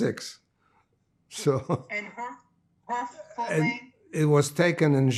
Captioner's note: laughing